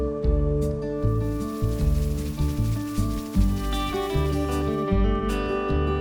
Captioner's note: sprinkler